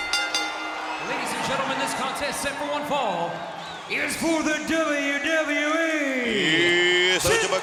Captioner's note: applause